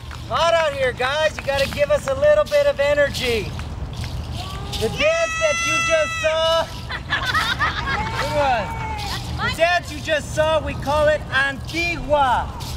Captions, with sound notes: Hot out here, guys, you gotta give us a little bit of energy. - Yeah! - The dance that you just saw-- (audience laughing) Good one. The dance you just saw, we call it Antigua.